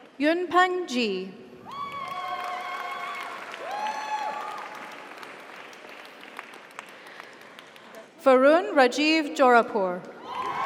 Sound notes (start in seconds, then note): 1.7 audience cheers; 1.8 audience applauds; 10.2 audience applauds; 10.2 audience cheers